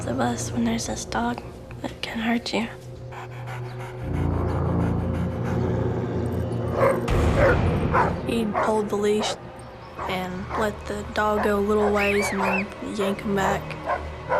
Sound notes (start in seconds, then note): 4.1 dog growls, barks